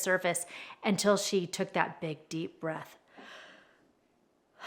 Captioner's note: breathes